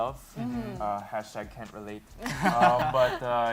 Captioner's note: laughter